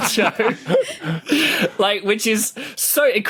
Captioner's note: group laughing